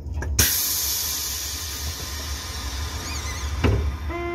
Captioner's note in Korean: 출입문 열림